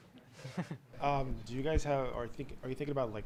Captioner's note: chuckling